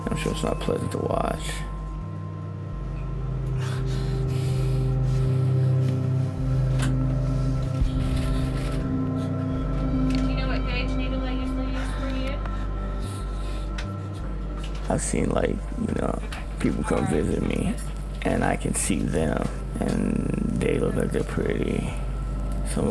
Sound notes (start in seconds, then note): 3.0 labored breathing